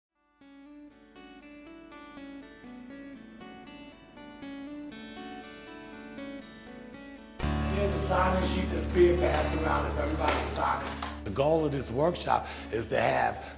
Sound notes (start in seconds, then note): 1.2 soft guitar music; 7.7 people chattering